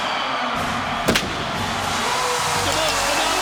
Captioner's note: fireworks exploding